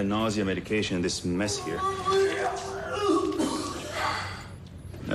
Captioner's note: vomiting